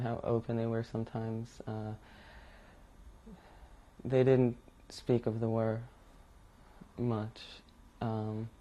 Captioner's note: pauses for 3 seconds